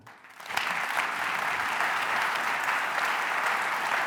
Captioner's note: applause